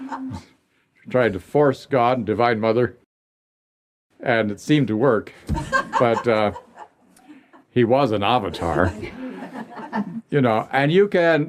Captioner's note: laughter; laughter